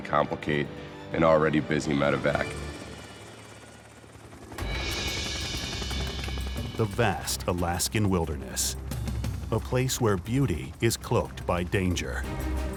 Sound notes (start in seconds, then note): 2.8 helicopter blades whirling